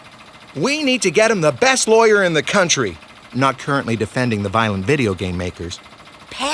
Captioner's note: none